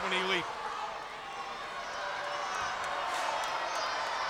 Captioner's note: crowd yelling